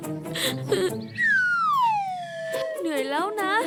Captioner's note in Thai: เสียงสะอื้น; เสียงลื่นไถล